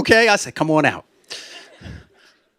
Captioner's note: laughter